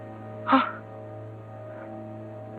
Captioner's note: gasps